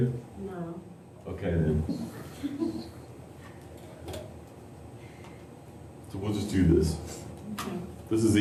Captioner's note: laughter